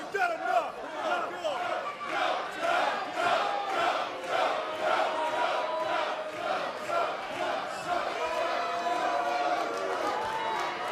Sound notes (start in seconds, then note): 3.4 fans chanting; 10.3 cheers & boos